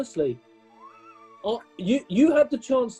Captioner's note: sniggering